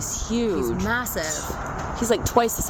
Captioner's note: hoots